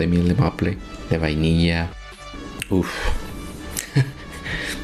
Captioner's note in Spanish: risas